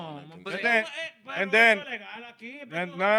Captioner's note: speaking In Foreign Language